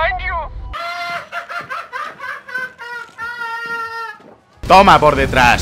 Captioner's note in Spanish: Risas